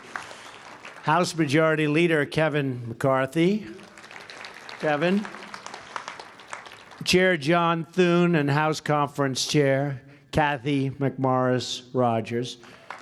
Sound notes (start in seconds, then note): 0.0 applause; 5.3 applause; 12.6 applause